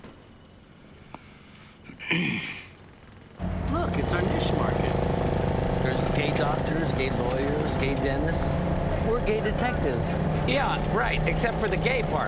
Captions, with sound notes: (clears throat) Look, it's our niche market. There's gay doctors, gay lawyers, gay dentists. We're gay detectives. - Yeah, right, except for the gay part.